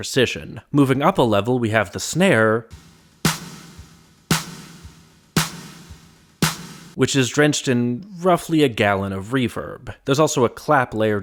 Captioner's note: bang